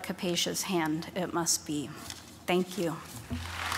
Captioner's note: applause